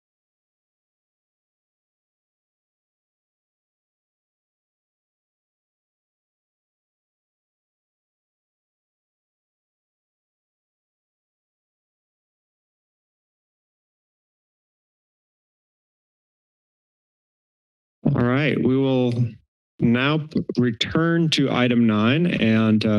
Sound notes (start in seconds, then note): 0.1 silence